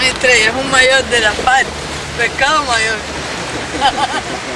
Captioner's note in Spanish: risas sarcásticas